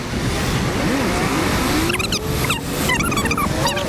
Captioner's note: squeaking